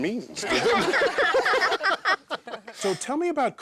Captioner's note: all laughing